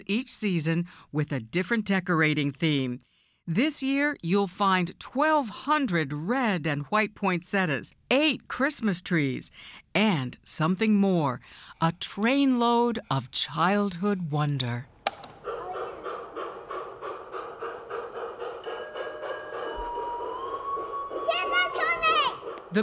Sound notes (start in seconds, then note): 12.8 train chugging; 15.3 train whistles; 15.4 train bell dings